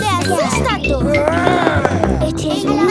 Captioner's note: growls